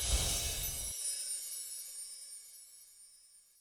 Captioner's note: windchimes ring